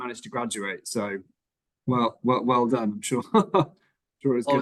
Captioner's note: chuckles